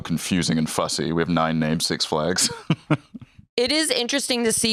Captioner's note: laughs